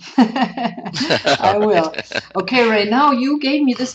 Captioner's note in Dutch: Lachen